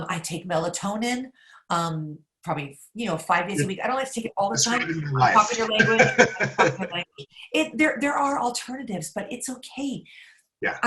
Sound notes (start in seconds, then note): 6.3 laughs